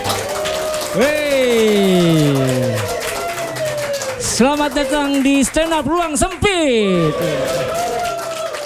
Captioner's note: applause